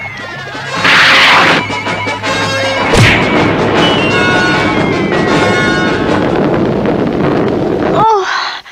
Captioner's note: smack!